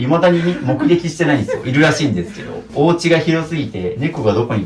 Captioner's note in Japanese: 笑い